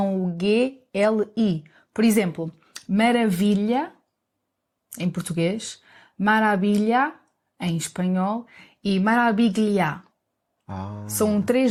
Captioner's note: Italian